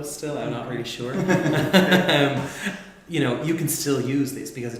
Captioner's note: laughs